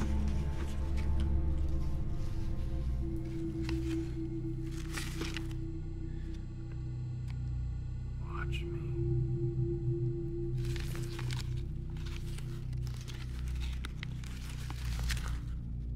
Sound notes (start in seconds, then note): none